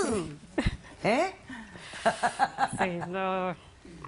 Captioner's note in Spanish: Risas